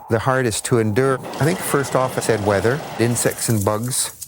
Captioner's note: storm sounds